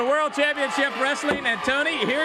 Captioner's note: crowd cheering